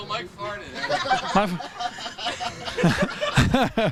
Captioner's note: laughter